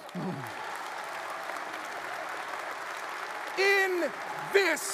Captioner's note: audience applauds